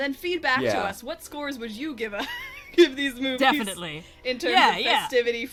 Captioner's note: laughs